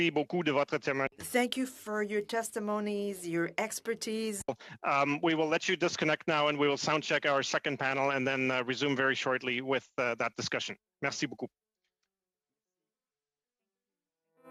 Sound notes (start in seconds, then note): 3.9 speaking French